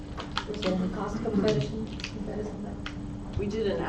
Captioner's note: speaker drowned out by static